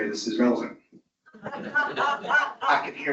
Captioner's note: audience laughs